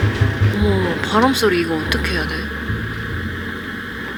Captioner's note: the wind continues to blow